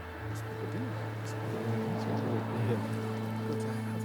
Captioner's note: guests chattering